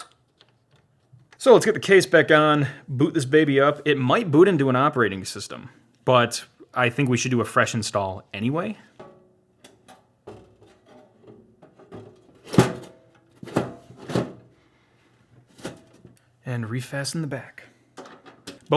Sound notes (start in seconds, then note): 10.3 loud metallic clanging